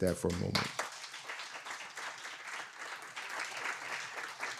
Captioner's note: audience applauds